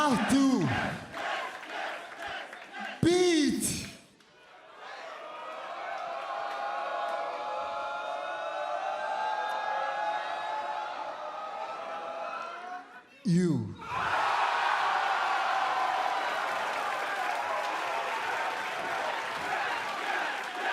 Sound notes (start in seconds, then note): 10.1 crowd response; 13.8 cheers and applause; 19.4 fans chanting